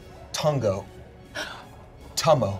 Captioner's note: gasps